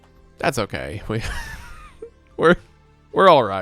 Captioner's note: laughing